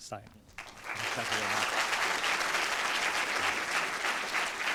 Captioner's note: applause